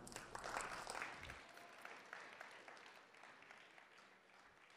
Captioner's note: audience applause